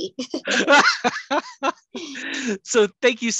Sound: laughs

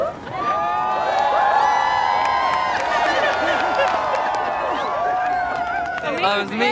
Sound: cheers and applause

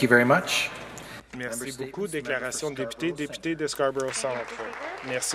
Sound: some Applause

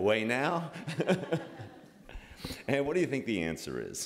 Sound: laughter

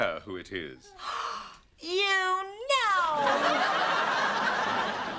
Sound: gasps

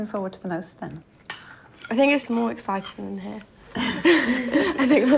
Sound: laughs

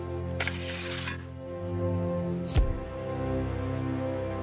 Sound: camera sounds

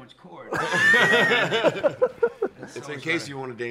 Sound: laughs

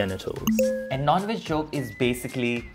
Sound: bell dinging

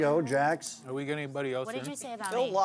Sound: voiceover

